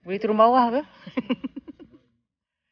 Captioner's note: laugh